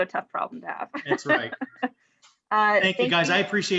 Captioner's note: chuckles